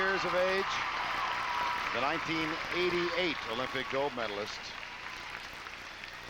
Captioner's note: applause